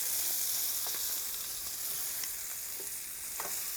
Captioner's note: pan sizzles